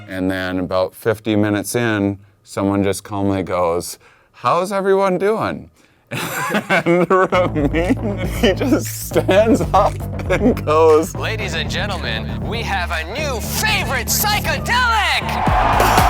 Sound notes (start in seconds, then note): 6.1 laughs